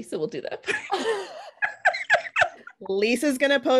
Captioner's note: all laughing